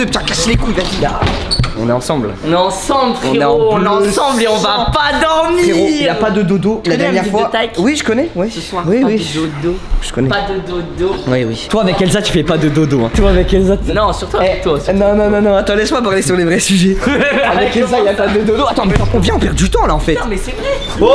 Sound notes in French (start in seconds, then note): 16.9 rire